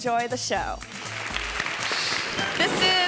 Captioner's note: hands clapping